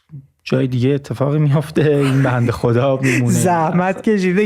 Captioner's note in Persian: خنده